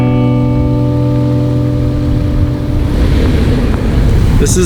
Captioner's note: car engine humming